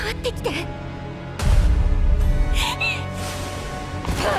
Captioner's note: gasp